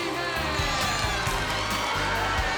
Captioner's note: crowd cheering